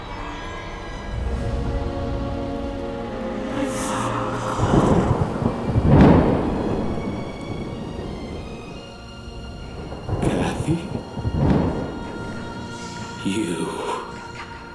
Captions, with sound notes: - I'm so alone. (lightning striking) - Cathy? You, out now.